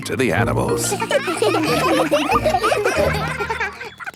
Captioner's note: children laughing